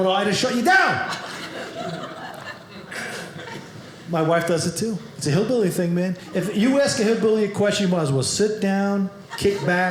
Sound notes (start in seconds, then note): 1.0 audience laughing